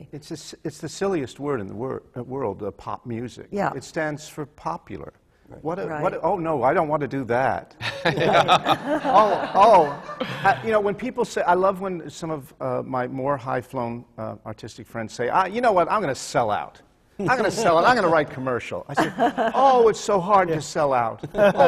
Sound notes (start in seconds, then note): 7.8 laughter; 17.2 laughter from the panel